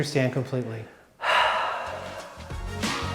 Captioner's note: sighs; upbeat music